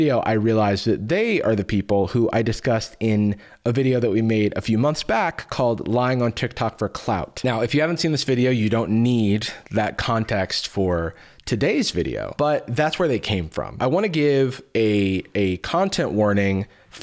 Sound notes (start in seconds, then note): none